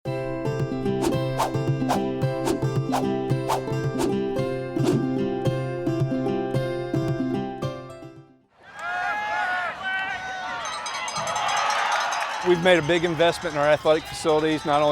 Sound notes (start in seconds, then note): 0.5 lighthearted music; 8.6 cheering; 9.0 shouting